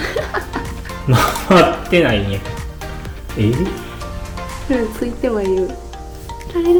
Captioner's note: laughs